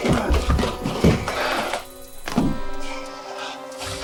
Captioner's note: dramatic music; body thudding